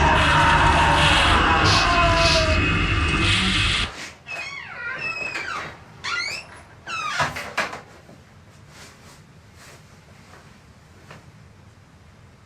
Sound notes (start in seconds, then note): 0.0 unsettling music; 0.0 Billy screaming; 4.2 door creaks